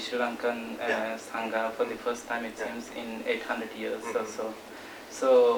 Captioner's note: non-english speech